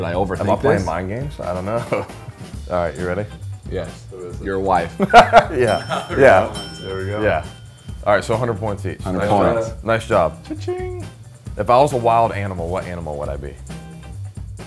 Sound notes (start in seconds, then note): 4.9 man laughing; 14.5 upbeat funky music continues